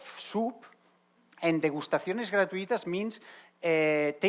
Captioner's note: speaking Spanish